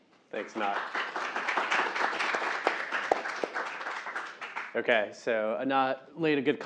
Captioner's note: applause